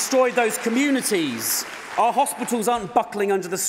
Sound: applause

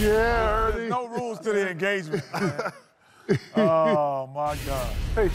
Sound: laughter

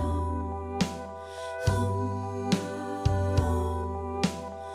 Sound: playback of recorded ♪ Hmmmmm, muummmm

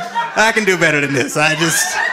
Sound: audience laughing

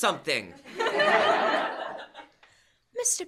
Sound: laughter

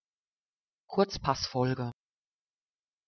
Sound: fast Pronunciation

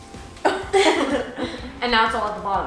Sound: laughing

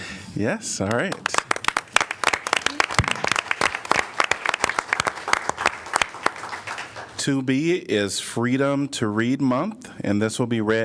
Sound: applause

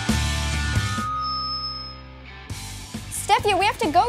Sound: mic feedback

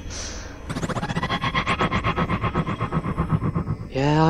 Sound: The Tardis makes a noise of annoyance

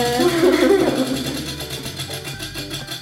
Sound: laughs

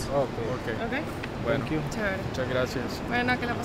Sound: speaking in Spanish

